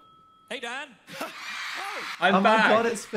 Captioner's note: crowd cheering